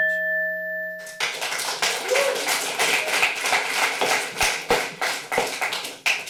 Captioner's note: clapping